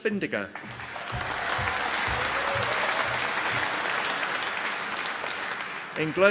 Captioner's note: applause